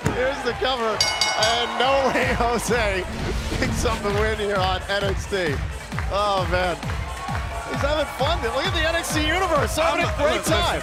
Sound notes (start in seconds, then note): 0.9 bell ringing; 7.5 crowd cheering